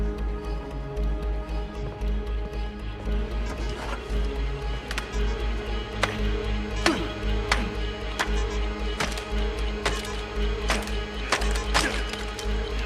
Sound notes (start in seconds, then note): 7.5 hammer thwacking